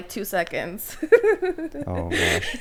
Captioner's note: laughs